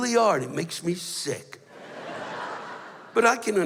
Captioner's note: laughter